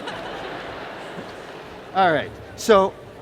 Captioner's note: laughter